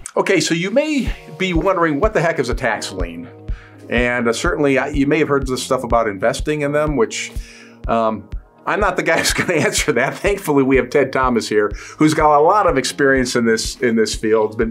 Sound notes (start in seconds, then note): 9.2 host chuckles